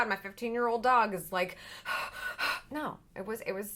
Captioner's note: exasperated breathing